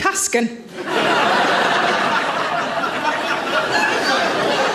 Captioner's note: audience laughs